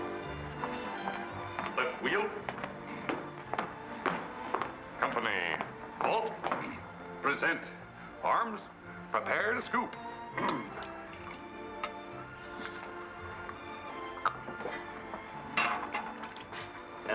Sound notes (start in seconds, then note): 2.8 boot steps